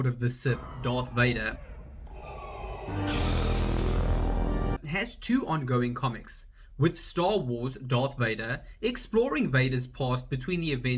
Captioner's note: lighstaber noise